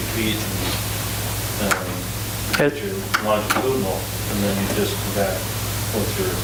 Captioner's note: drowned out by tapping